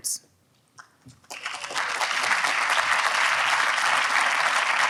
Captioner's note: audience applauds